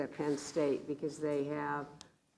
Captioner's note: none